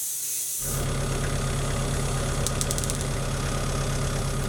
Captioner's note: engine revving